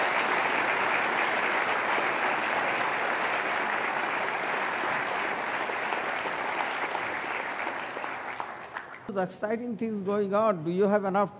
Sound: applause

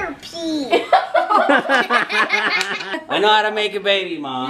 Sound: laughs

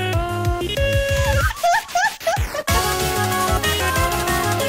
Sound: evil Female Laughter

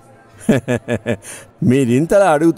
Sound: laughs

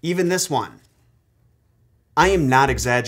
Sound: music stops

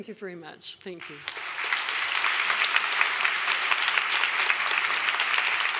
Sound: audience applauding

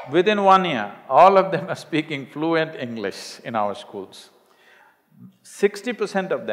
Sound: laughs

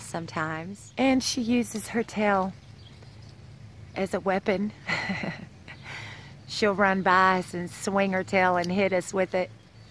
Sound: laughter

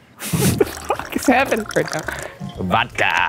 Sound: laughs

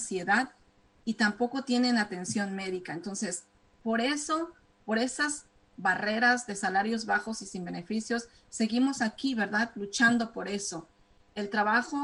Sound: speaking spanish

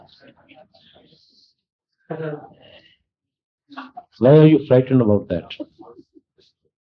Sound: laughter

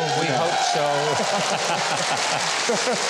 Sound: audience cheering and applauding; laughing; audience applauding

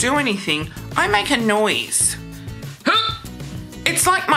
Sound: grunts

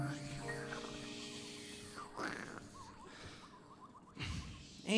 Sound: band imitating static

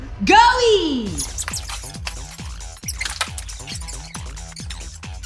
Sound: sped up audio sound effect

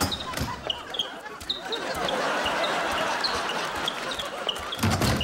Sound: squeaking

